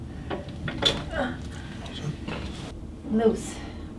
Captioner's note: grunt